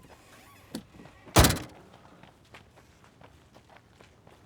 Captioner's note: door slams